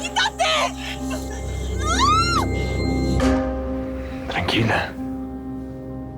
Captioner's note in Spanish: Gemidos